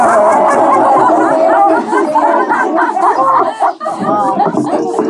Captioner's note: laughter